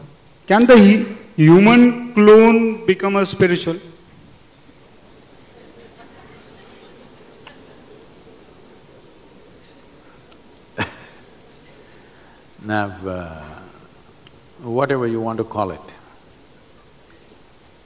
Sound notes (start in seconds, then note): 5.4 few Laughs; 10.6 laughs